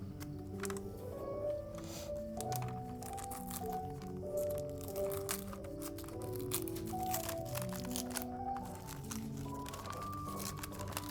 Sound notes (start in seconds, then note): 2.9 gentle music continues; 2.9 paper scrunching